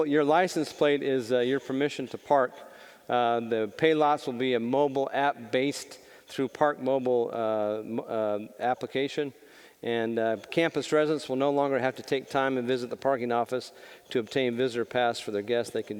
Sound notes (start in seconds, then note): none